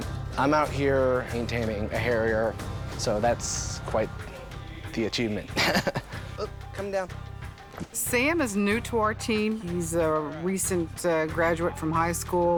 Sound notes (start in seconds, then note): 5.4 laughs